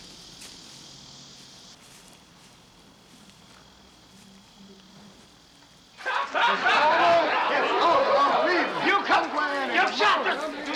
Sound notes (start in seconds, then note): 5.9 people laughing and shouting; 8.7 man yelling